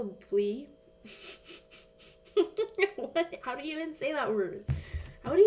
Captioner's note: laughs